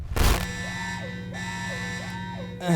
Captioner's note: alarms continue blaring